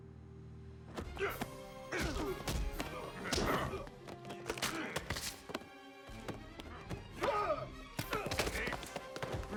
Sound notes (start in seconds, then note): 0.2 dramatic music; 1.9 grunting